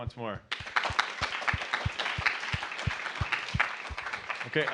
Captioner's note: applause